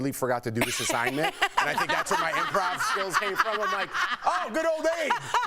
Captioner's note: laughter